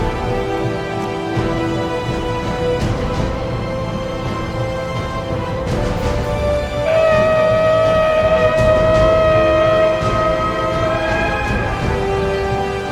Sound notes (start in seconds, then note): 6.8 horn blowing